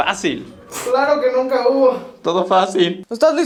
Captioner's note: sarcastic